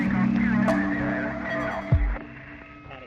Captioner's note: radio communiacations